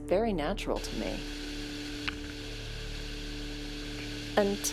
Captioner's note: water splashing